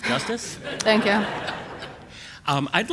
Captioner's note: laughs